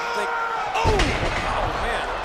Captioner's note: men grunt